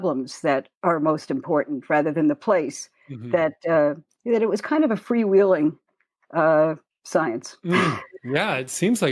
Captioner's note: chuckle